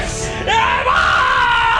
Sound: scream

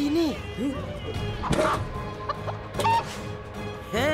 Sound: clucking

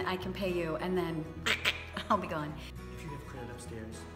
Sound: quack sound

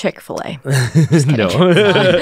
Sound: laughs

